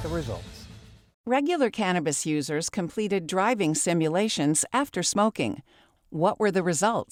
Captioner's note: voice-over